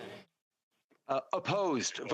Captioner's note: speaking French